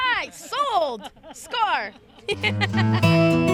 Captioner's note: laughter